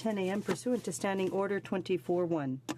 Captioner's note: speaking in french